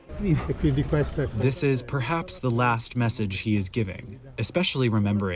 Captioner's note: through translator